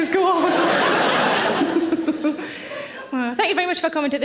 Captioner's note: audience laughing; Sarah laughing